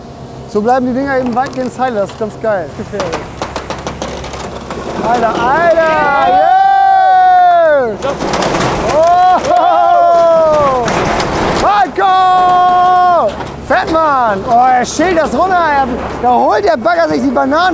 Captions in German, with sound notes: Er hebt das Dach ein bisschen an, und wir schneiden die vorderen 2-3 Pfosten weg. Dann schauen wir, was passiert. *Holz knarzt* So bleiben die Dinger weitestgehend heile, das ist ganz geil.